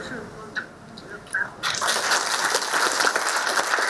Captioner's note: applause